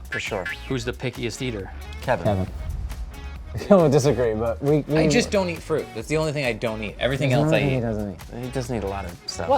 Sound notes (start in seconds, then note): 3.7 laughing